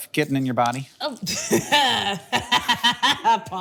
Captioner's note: Akilah laughing